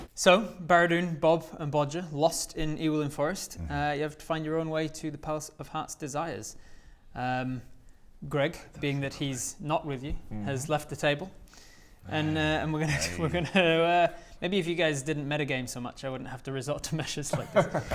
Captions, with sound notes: So, Baradun, Bob, and Bodger lost in Ewolin forest you have to find your own way to the palace of heart's desire - Greg, being that he's not with you - I told you so mate has left the table - and we're gonna - *disgusted sigh* we're gonna er maybe if you guys didn't metagame so much I wouldn't have to resort to measures like this!